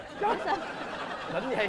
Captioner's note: laughing